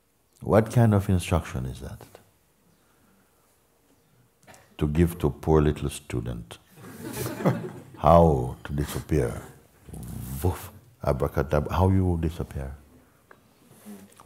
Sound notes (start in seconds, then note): 6.8 laughter